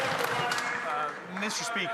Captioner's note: some Applause